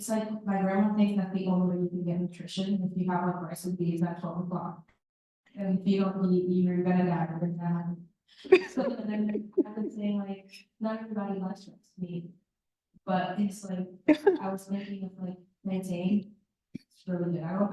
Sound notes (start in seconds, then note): 8.4 laughter